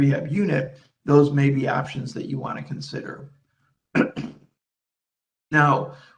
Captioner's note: clears throat